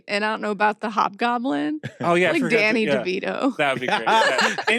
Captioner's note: laughs